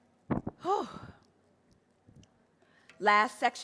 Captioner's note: sighs